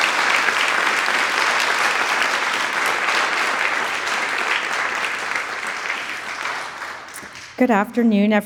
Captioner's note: audience cheering and applauding